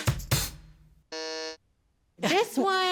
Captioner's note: upbeat music; buzzer buzzes